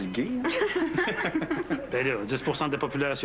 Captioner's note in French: Rires